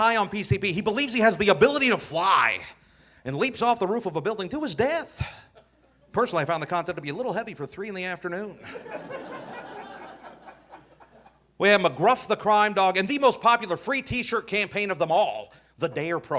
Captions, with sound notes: where a kid gets high on PCP. He believes he has the ability to fly and leaps off the roof of a building to his death. Personally, I found the concept to be a little heavy for three in the afternoon. (audience laughing) We had McGruff the Crime Dog. And the most popular free t-shirt campaign of them all,